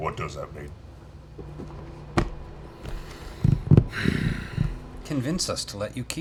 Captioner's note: sighs angrily